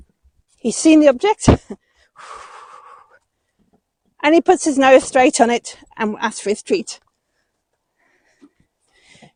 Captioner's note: deep sigh